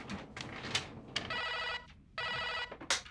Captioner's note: phone rings